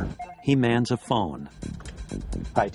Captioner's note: phone Rings